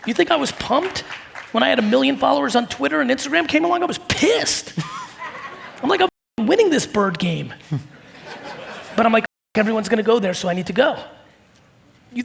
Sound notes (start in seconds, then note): 7.7 audience laugh